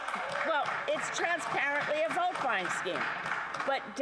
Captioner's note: some Applause